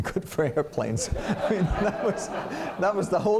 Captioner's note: laughter